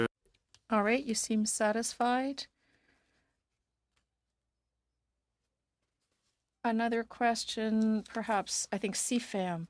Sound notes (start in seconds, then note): 7.6 speaking in French